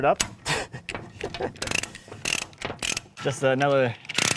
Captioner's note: laughs; binder clicking